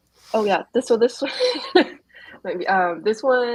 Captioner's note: laughs